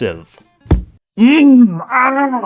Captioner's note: thud